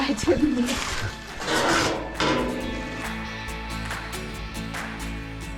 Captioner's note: metal clanks; upbeat music